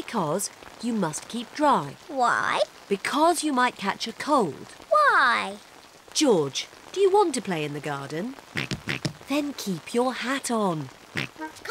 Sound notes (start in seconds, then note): 6.6 oinking; 8.8 oinks; 11.0 giggles